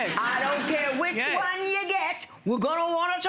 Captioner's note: audience laughter